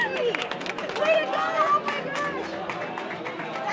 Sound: clapping

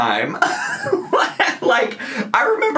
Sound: laughs

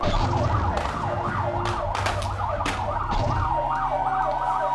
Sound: sirens blaring; guns firing

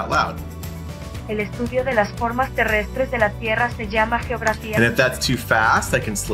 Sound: speaking in Spanish

